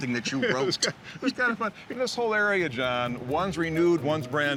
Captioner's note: laughing